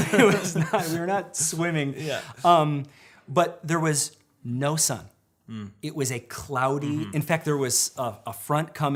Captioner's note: mmm